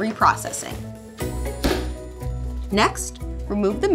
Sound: lid slaps

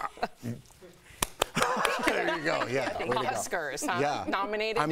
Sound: laughter

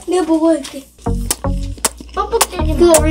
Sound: eating sound

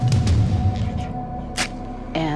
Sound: match lights

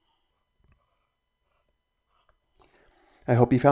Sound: pencil scratching

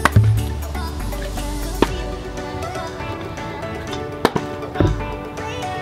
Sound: bottles hitting ground

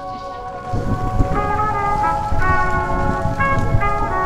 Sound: gentle jazz continues; rain pours

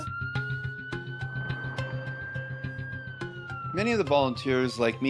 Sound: sirens wail

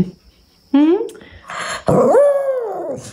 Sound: howling

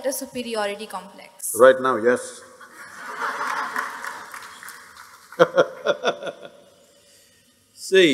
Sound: laughter

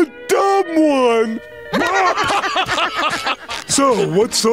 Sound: laughing

